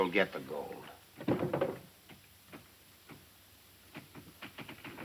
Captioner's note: light clattering